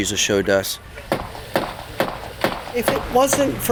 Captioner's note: hammer banging